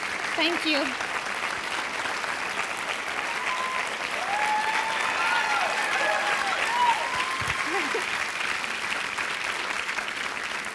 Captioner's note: cheering and applause